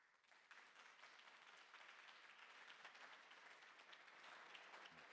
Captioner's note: applause